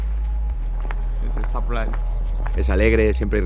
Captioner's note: in English